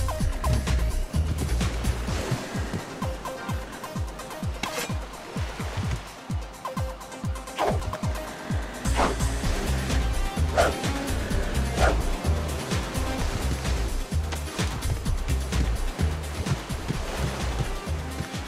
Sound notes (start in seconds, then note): 7.4 sword sound